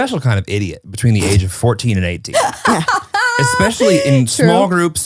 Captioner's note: laughs